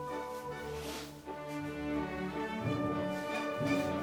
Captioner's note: fabric rustling; laces shuffling